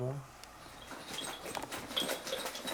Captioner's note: the sound of ringing the bells